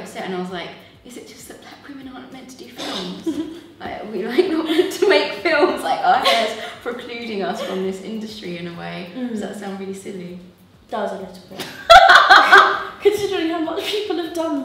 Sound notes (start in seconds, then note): 6.0 laugh; 11.6 laughs